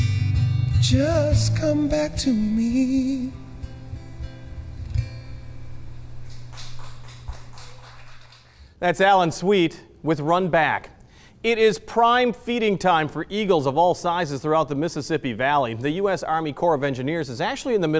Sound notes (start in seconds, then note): 6.2 audience applauds